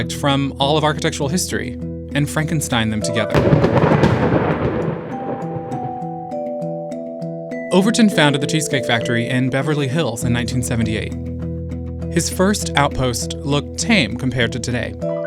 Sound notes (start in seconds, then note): 3.3 explosive booming; 5.1 light melodic music